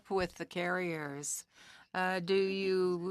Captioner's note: speaking French